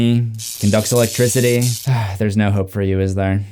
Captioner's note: electric crackling; sighs